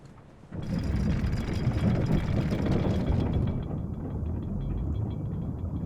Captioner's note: chain clanking; water gurgling